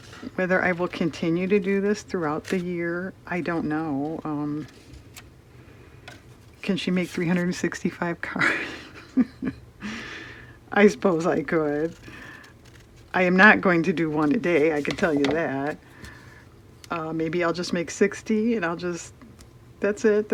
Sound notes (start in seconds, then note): 8.4 laughs